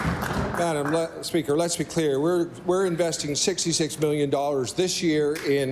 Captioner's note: applause